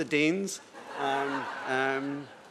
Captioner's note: laughter